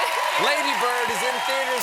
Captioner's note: applause